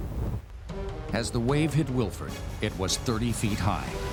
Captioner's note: voiceover